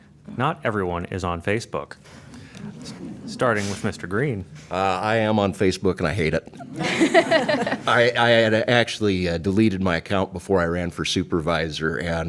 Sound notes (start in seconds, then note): 6.5 laughter